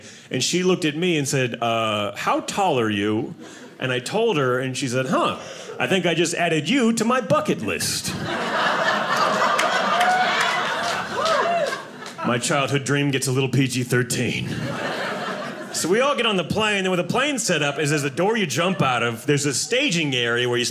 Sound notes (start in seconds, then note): 8.0 audience laughing